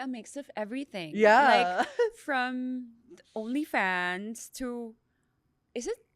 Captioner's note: laughs